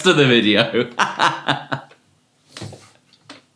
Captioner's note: laughs